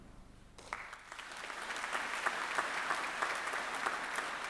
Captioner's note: audience applauding